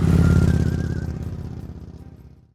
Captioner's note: engine humming